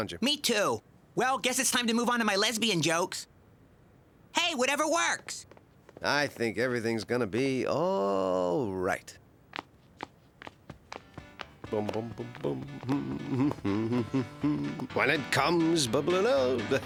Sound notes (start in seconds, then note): 11.7 humming